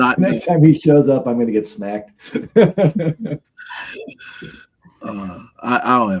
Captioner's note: laughs